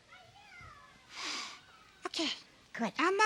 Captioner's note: deep breath